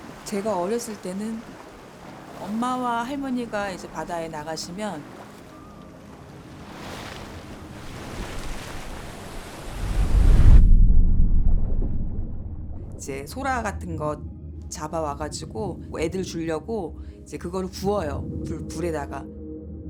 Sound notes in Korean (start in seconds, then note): 5.5 잔잔한 파도 뒤로 물질하는 소리; 10.5 물 속에서 먹먹한 소리